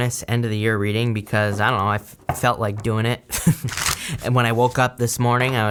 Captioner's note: laughs